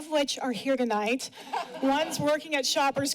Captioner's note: laughter